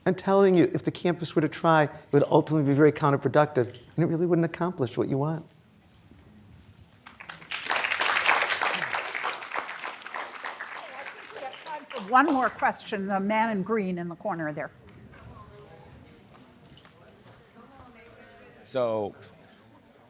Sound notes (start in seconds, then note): 7.0 applause